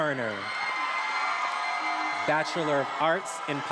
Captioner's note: attendees applauding and cheering